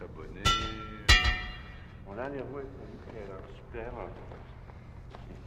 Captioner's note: clanging continues